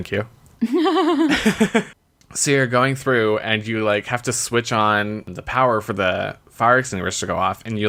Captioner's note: laughs